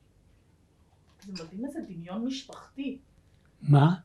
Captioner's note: hebrew